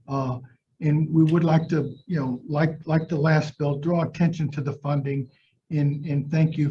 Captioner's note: none